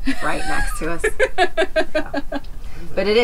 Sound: laughs

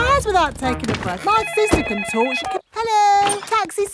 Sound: cellphone ringing

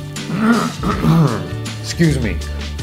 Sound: clears throat

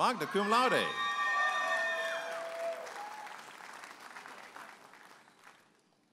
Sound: audience applauding and cheering

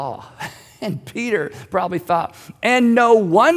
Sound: laughs

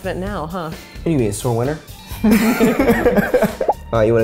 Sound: laughing

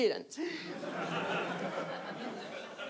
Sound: audience laughs

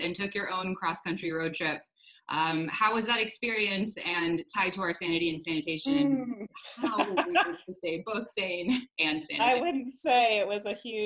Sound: laughter

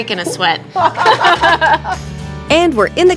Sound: both laughing

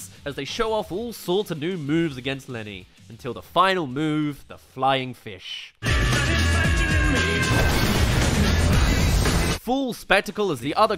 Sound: ahhh! *Smash

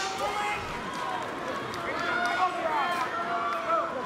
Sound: sticks clacking

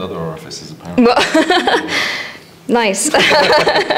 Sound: laughs

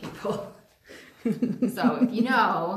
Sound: laughing

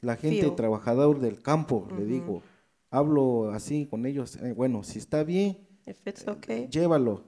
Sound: speaks in foreign language

